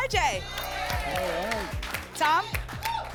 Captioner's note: applause